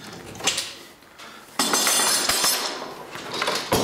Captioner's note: metallic clanking